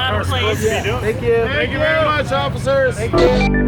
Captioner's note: crowd; upbeat techno music